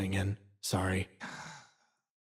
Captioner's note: Gartrinus Sigh